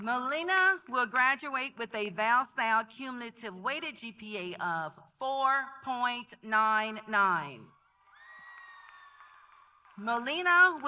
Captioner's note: applause